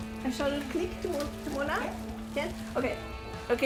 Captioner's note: speaks in foreign language